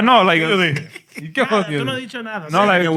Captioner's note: speaking Spanish